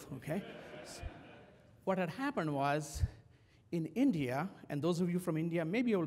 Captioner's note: laugh